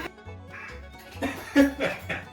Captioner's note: coughing sound